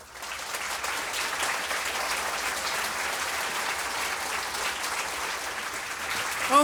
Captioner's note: applause